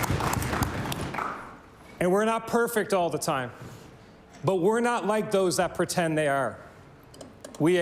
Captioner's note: applause